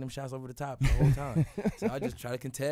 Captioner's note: laughs